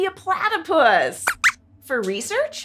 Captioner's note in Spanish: Squeaks chirría